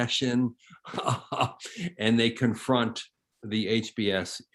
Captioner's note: chuckles